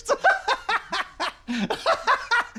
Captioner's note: laughs